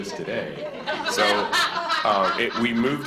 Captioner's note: board laughs